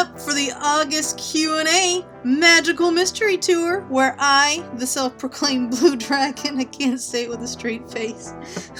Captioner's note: laughs